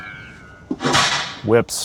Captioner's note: bullet ricochets; whip snaps